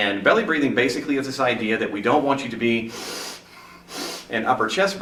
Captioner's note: takes a couple breaths